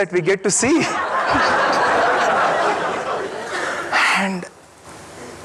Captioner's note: audience laughing